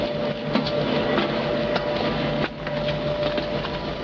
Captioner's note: footsteps